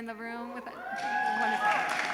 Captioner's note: cheering; applause